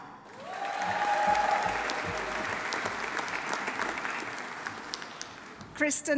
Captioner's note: audience applauding; audience cheering